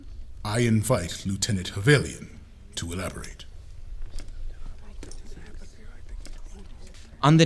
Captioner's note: mixed murmers